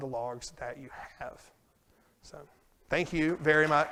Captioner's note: applause